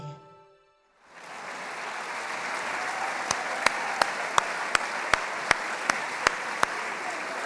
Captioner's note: applause